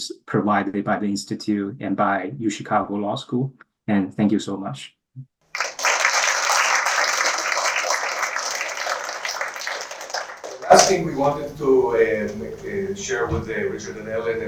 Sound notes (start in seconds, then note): 5.5 applause